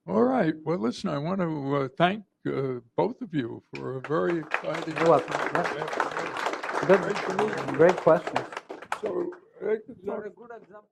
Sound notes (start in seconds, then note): 3.7 applause